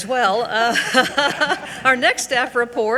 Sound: all giggling

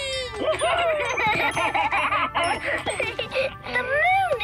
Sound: laughing

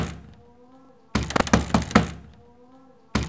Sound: door banging

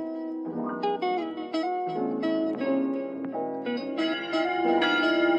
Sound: bell ringing

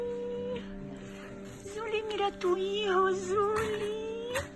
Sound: speaking Spanish

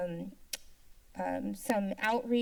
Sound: tongue clicking

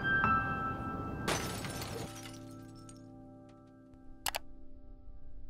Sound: glass breaking; mouse clicking

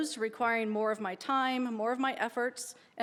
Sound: none

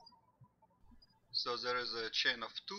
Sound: birds chirping

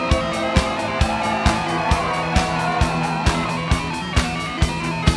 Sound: crowd cheering and clapping

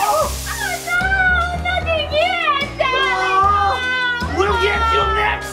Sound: whimpers

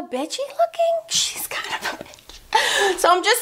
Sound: laughs

